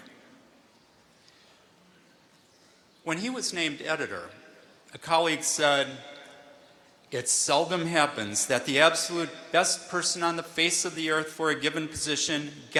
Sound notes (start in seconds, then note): none